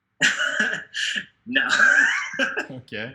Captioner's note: laughing